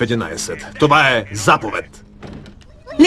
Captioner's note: door slams